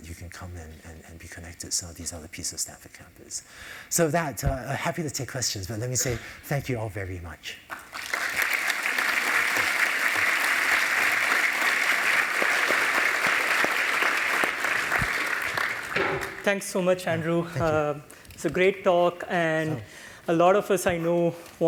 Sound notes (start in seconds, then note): 7.7 applause